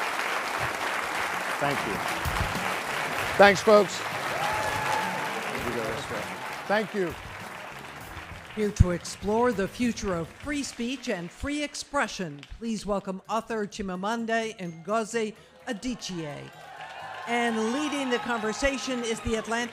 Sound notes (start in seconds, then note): 6.2 applause